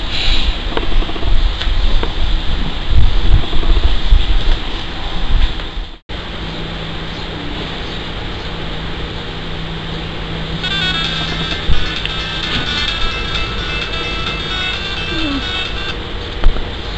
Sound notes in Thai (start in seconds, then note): 10.6 เสียงนาฬิกาปลุก